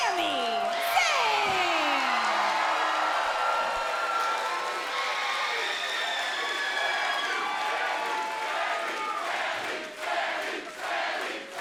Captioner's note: crowd cheering